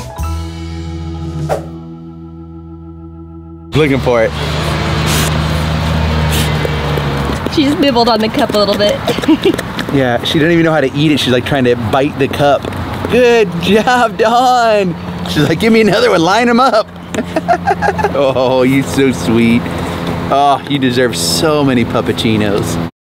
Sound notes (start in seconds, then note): 0.0 bright music; 8.7 laughs; 17.0 both laughing